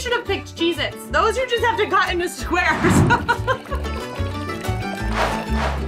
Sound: laughing; quirky music

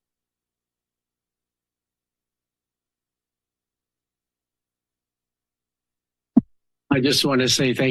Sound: silence

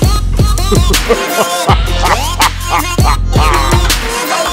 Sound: evil laughing

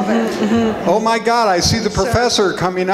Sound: audience laughs

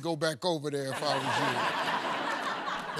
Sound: laughter

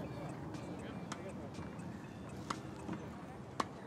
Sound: phone chiming

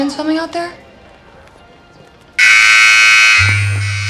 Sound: alert tone chiming

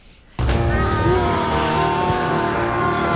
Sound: CODY screams in pain

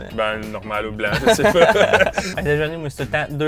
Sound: laughs

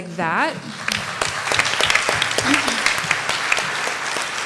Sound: applause

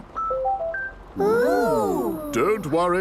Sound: car chiming

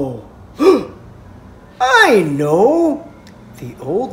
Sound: gasp

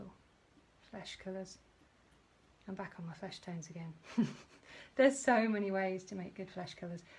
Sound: laughs

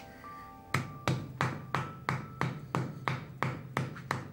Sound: mallet thudding

